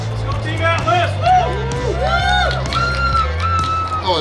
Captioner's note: cheering